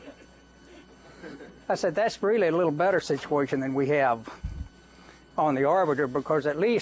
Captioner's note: laughter